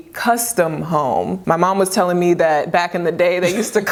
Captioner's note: both chuckling